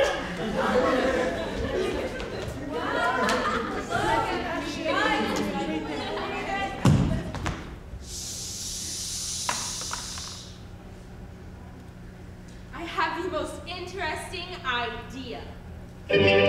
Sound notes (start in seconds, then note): 0.0 audience laughs; 2.9 group chattering; 6.8 crutch thuds; 16.1 upbeat Vaudevillian music